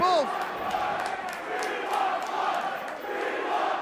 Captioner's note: crowd cheering